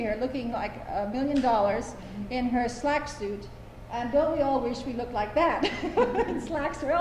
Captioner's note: laughter